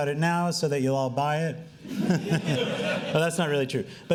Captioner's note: laughing